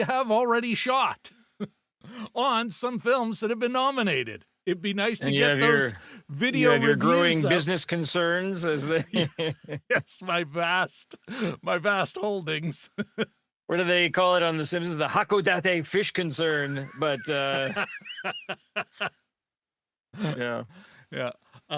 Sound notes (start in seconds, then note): 19.6 laughing